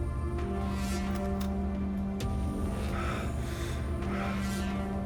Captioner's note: gun cocking; man breathing heavily